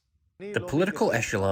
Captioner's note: through translator